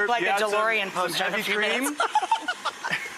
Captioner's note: mumbles and laughs; laughs